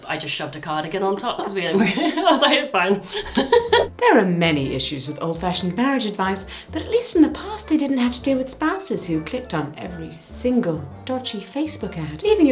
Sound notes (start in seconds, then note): 2.8 laughs